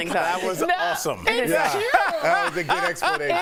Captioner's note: laughter